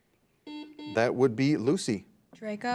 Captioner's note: buzzer beeps